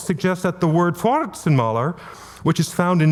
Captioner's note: speaking German